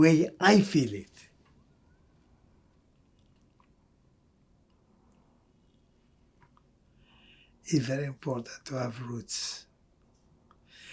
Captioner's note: pauses 6 seconds